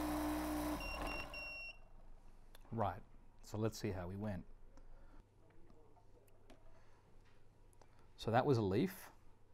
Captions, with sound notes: (BeadBug beeps) Right, so let's see how we went. So that was a leaf,